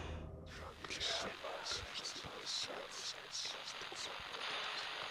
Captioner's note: ghostly voices whispering